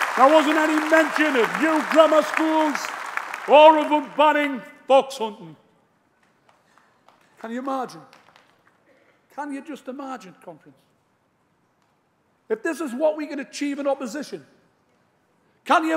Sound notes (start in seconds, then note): 0.0 applause